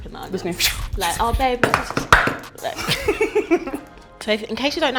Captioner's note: mock chops on the chopping board